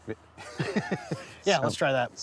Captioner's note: chuckles